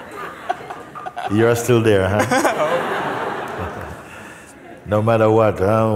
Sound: laughter

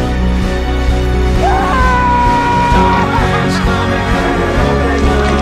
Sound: Blanky screams for joy

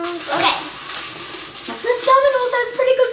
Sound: rustling

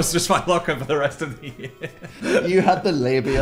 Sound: laughs

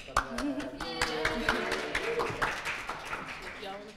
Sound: applause

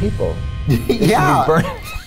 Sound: laughter

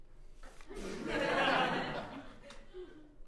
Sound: audience laughter

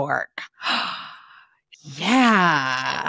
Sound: gasps

